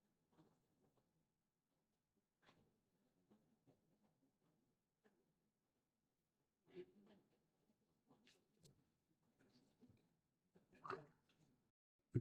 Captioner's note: silence